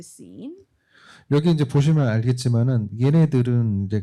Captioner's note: speaking korean